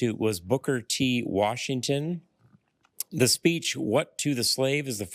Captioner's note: none